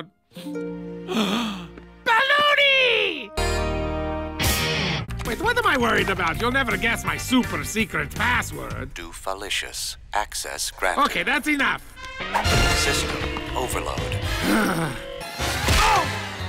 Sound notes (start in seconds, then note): 1.1 gasp; 14.3 Doofenshmirtz sighs deeply